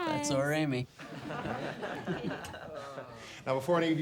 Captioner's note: class laughs